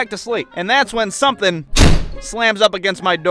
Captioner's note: wham!